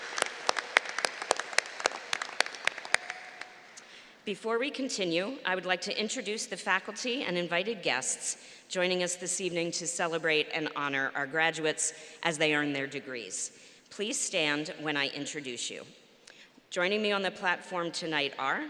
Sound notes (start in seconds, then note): 0.0 applause